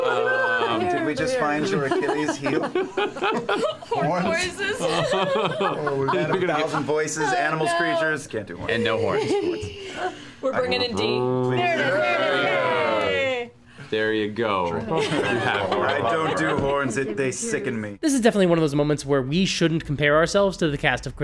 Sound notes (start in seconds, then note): 10.4 deep and cool horn sound; 11.6 cheering